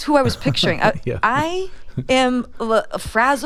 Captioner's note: laughter